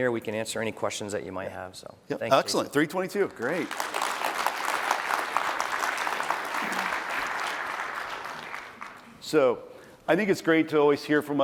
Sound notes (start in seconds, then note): 3.4 applause